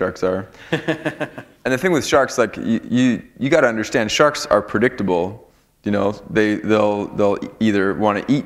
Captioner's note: chuckle